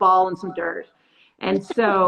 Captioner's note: laughs